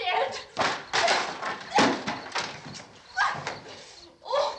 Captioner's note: shouts